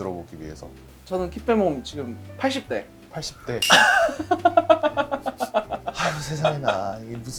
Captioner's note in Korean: 웃음